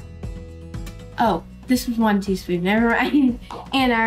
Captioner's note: laughing